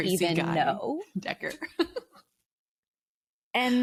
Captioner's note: chuckles